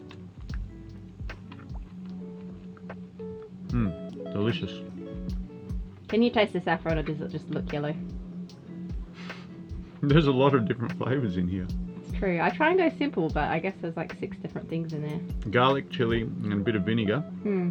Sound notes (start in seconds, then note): 1.4 he chews; 9.2 laughing